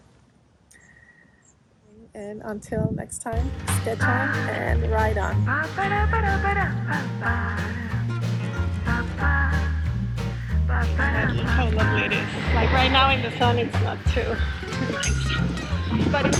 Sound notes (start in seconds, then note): 6.3 bicycle tires riding on road; 6.3 upbeat music: Paaa-paparapa-pa-pa